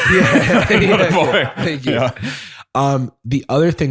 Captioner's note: laughter; laughs